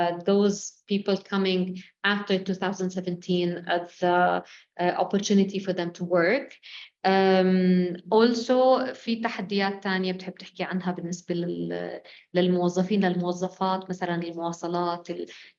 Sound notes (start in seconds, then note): 7.7 speaking arabic